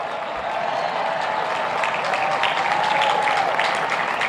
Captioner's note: applauding